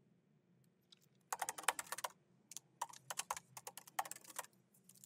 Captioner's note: keyboard clacking